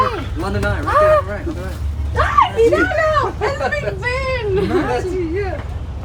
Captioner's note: screams of euphoria